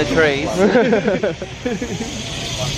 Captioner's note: both laugh